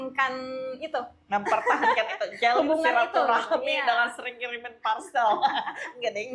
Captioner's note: laugh